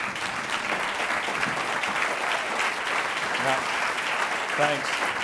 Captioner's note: audience clapping